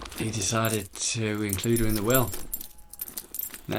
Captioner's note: none